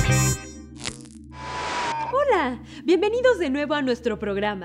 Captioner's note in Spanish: Estática